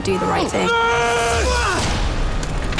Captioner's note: both yell